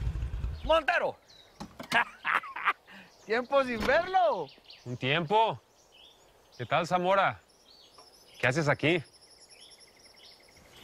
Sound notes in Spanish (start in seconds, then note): 1.9 Ríe